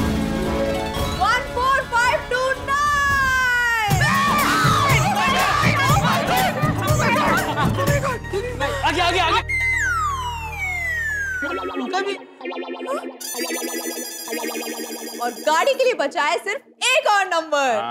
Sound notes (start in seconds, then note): 2.8 cheering